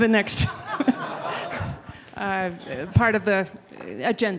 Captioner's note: laughing